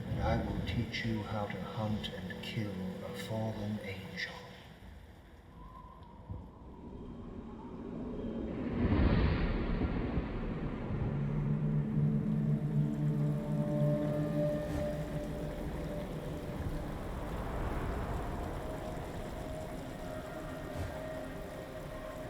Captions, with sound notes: I will teach you how to hunt and kill a fallen angel. (wind howling) (thunder crashing) (solemn music) (rain pouring)